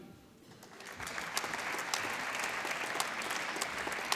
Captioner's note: applause